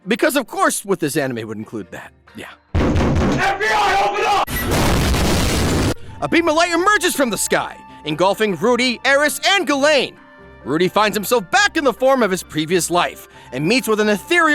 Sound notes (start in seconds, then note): 2.8 banging; 4.5 crash